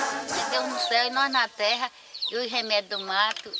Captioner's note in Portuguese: Música continua até silenciar; Canto de pássaros